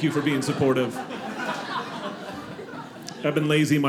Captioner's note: audience laughing